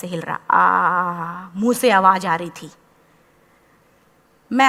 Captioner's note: painful sigh sound